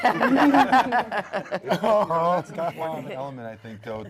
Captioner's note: panel laughs